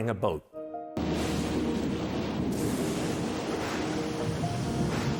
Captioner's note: thunder crashing